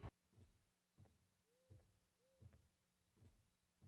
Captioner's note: footsteps